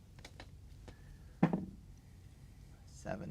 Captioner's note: dice rolling